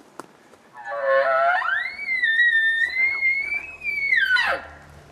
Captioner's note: loud elk bugling